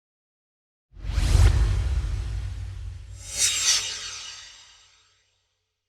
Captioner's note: swoosh